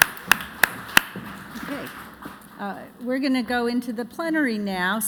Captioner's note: applause